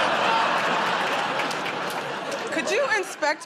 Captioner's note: laughter